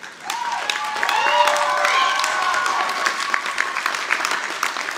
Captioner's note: audience applauding